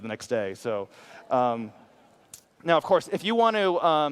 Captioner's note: audience laughs